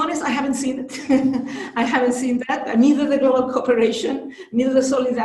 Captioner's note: laughs